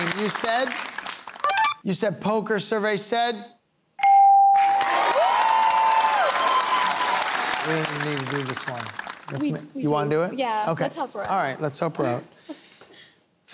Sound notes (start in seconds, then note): 4.6 cheering and applause